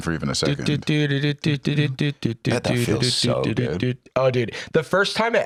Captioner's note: humming star power Mario song